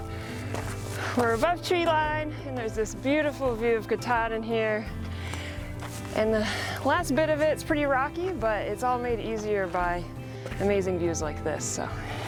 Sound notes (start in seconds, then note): 5.2 feet stepping; 5.5 gentle music